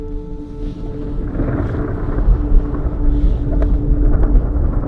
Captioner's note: thunder rumbling